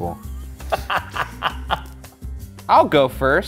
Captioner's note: laughs